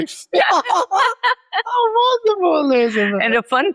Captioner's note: laughs